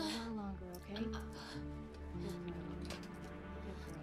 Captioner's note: gasping lightly